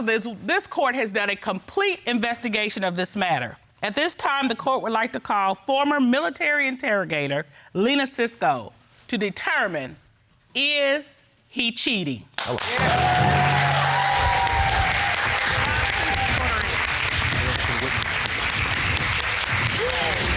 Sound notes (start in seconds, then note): 13.4 audience applauding; 14.7 audience cheering